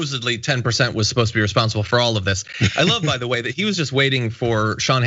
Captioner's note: laugh